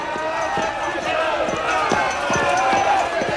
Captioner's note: inmates shouting